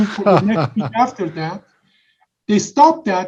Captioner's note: laughs